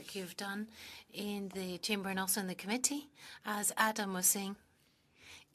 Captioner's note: speaking French